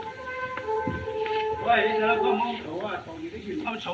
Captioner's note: speaking Chinese